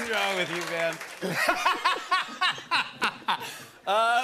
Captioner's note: laughing; laughter